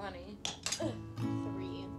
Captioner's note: Pop-O-Matic clicks